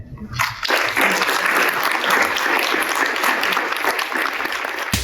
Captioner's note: crowd applause; modern upbeat music